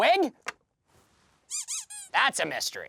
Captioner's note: squeaking